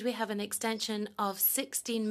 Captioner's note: speaking French